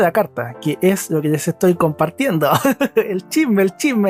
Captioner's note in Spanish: risas